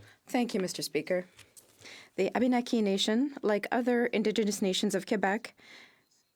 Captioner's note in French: voix de l'interprète